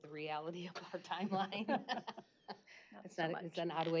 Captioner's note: chuckle